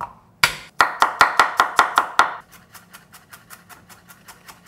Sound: knife chopping

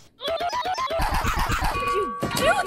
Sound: bonk bonk bonk bonk bonk

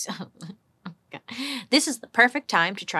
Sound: sobbing

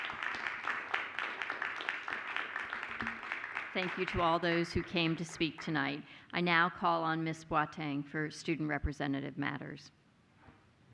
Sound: applause

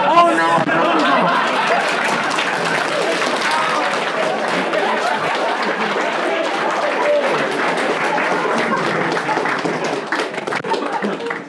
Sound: laughing and clapping

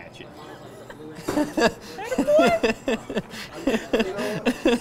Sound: laughs

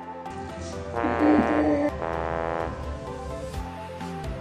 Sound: sad horn sound

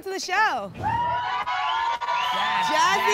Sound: cheering

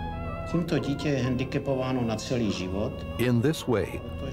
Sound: speaking Czech

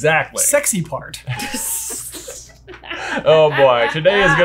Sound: all chuckling

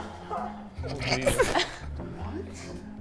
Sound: chuckling

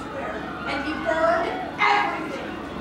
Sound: faint screaming sounds

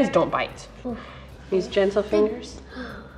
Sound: relieved sighing

